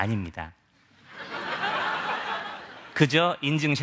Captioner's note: laugh